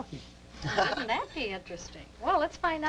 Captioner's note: laughs